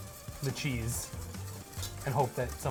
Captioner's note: whisk rustling